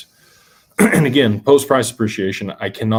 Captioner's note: clears throat